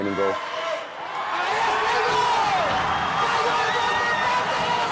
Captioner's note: people yelling